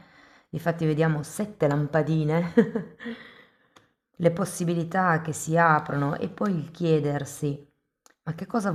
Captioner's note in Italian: risate